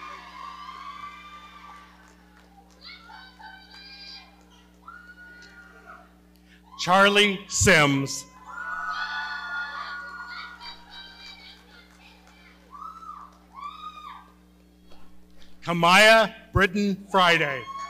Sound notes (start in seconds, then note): 8.3 audience cheering; 17.5 audience cheering and clapping